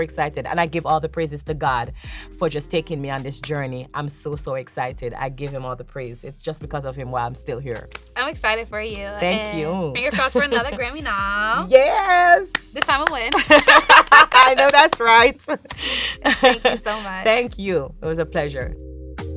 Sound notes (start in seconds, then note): 13.3 both laughing; 19.1 soft music